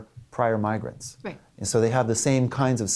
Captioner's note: voiceover